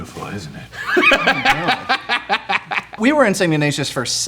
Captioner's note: laughs